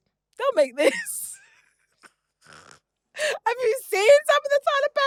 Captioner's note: laughs